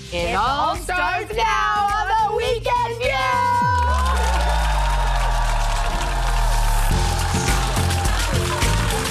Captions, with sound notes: - It all starts now on the Weekend View! (audience cheering) (upbeat music)